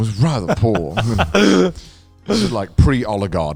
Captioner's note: laughs